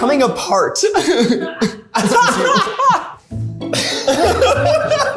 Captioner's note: all laughing